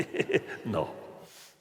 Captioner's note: laughter